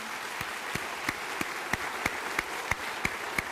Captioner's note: applause